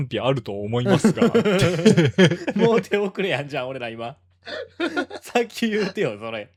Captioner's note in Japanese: 笑い